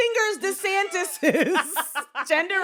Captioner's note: both laughing